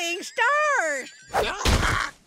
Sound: groaning

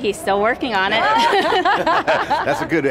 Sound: laughing

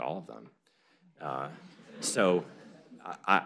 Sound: laughter

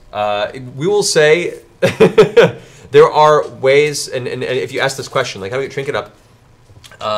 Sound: laughs

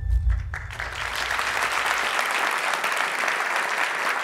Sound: applauding

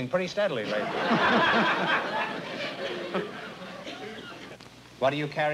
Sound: laughter

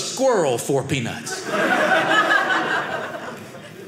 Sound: audience laughing

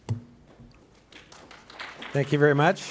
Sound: applause

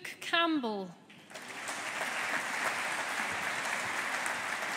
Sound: audience applauding

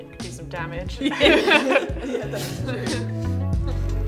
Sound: laugh; relaxing music

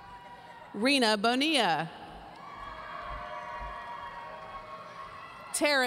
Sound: audience cheering

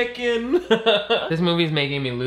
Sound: laughing

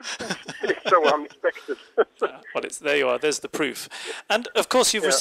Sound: laughs

